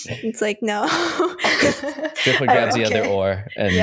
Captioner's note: laughter